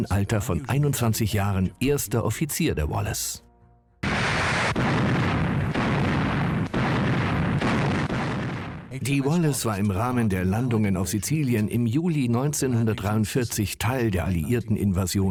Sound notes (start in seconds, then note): 4.0 guns firing